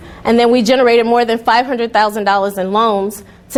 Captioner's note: none